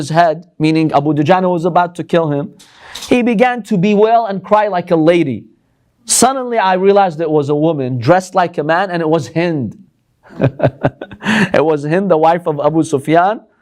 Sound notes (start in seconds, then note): 10.2 chuckles